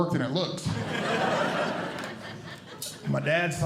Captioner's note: audience Laughing